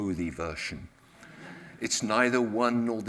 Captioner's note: audience laughs